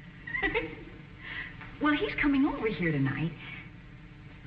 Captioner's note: giggling